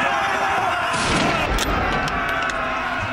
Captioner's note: gunshot